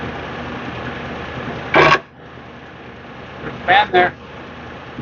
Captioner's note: engine running noise